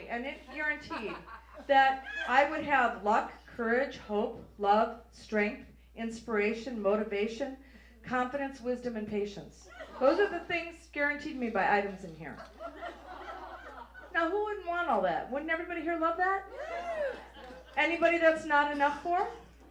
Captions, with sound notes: and it guaranteed that I would have luck, courage, hope, love, strength, inspiration, motivation, confidence, wisdom, and patience. Those are the things guaranteed to me by items in here. (audience laughs) Now who wouldn't want all that? Wouldn't everybody here love that? (audience cheers) Anybody that's not enough for?